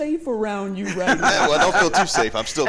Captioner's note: laughter